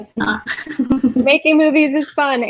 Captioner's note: laughs